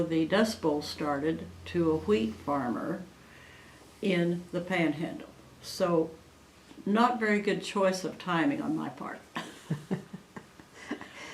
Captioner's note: laughs